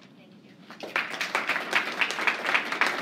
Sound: applause

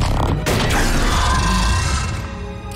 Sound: roaring; screeching

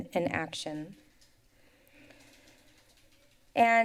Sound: silence

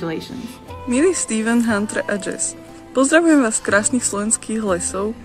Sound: in foreign language

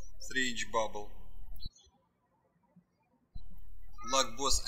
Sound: birds chirping

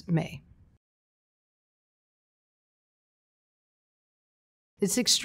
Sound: silence

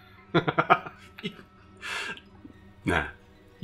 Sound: Evil Jimmy laughing

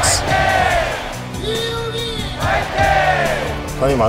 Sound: cheering

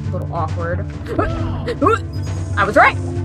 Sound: panic sfx

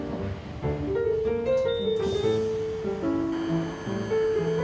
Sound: beeping sound from doors

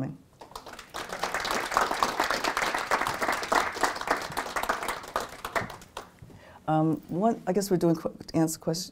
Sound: applause

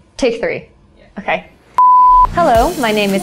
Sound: beep

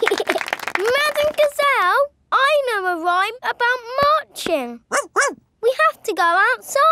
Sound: laughing and clapping; barks

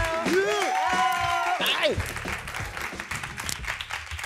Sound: cheering

